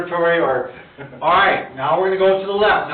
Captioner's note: chuckling